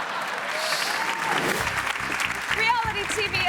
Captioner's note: audience laughing; audience cheering; graphic whooshes